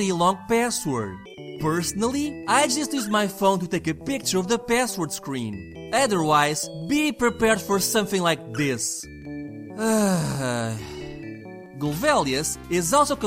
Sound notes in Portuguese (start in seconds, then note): 9.7 suspiro